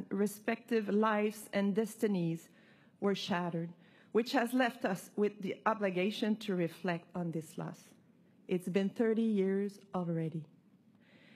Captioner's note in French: voix de l'interprète